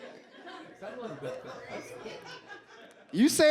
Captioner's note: audience laughs